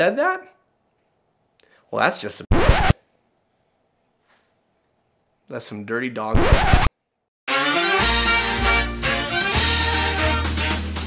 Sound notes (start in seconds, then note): 6.3 scratchy sound